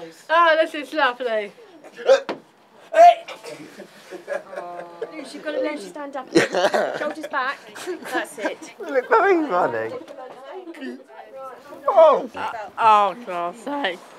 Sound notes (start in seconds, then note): 6.3 laughter; 6.3 laughs; 10.5 laughs